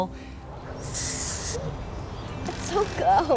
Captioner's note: spraying